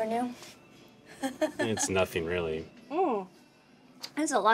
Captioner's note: Keely chuckles